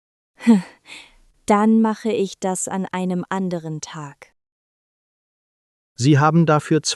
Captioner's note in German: laughs